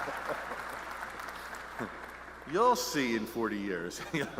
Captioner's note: laughs